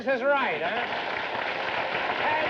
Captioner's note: applause